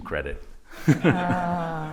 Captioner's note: laughter